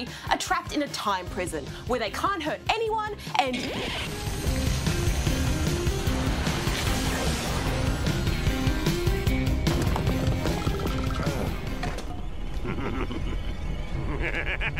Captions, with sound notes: are trapped in a time prison where they can't hurt anyone and... (RECORD SCRATCH) (GROANS)